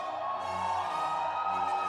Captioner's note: cheers and applause